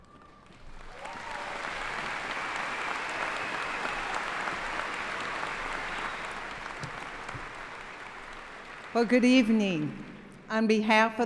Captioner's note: applause